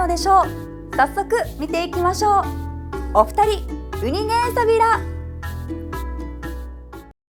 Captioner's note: in Okinawan